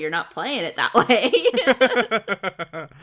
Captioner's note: laughs